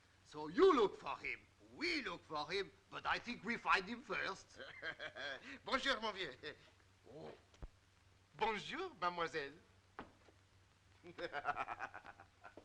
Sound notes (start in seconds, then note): 4.5 laughing; 6.2 speaking in French; 11.0 laughing